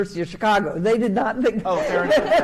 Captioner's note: laughs